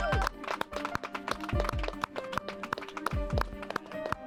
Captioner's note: clapping